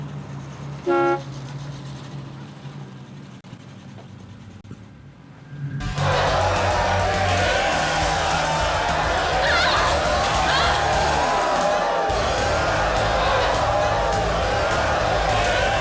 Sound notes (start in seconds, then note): 0.8 horn honks; 6.1 crowd cheering; 7.7 water splashes; 8.8 women grunting; 12.4 energetic rock music